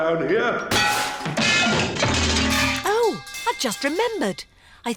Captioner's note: clanging and crashing